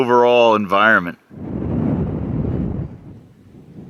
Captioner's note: wind noises